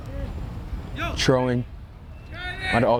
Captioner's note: players shouting